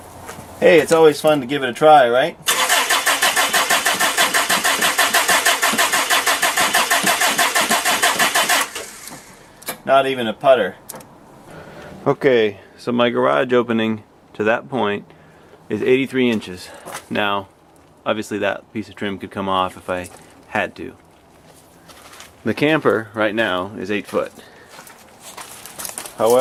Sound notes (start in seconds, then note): 8.3 cranking